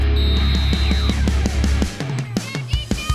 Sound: whistle blowing

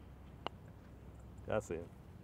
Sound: ball clinks

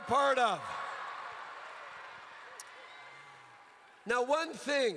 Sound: crowd cheers

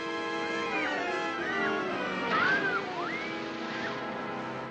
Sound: shrieking

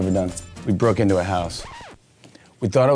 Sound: record scratching

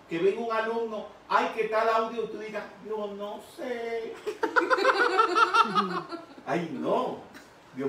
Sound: laughing

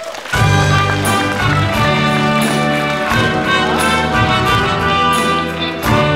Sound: applause

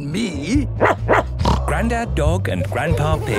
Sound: barking, snorting

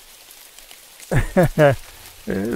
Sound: laughs

